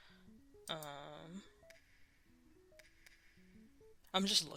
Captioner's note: mouse Click; mouse Click then Silence